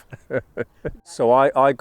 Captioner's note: laughs